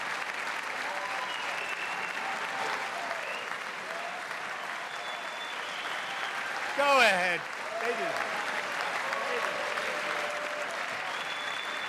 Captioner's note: applause; cheers